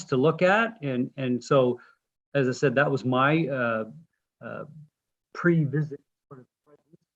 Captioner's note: voice distorts